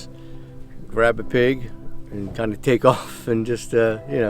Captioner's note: chuckles